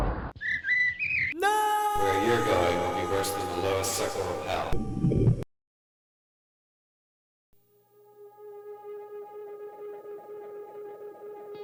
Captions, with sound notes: No! - [Disembodied Voice] Where you're going will be worse than the lowest circle of hell. (foreboding guitar music)